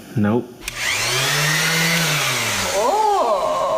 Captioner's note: orbital sander spins up and down again